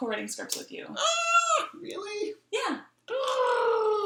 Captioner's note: squeals; cooes